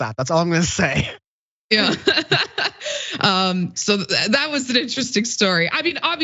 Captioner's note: laugh